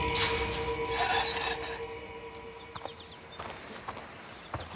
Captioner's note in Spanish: Rechinido al abrir la reja